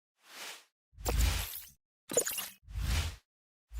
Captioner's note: logo swooshing